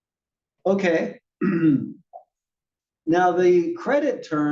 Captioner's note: cough